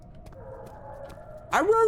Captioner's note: distant dog barks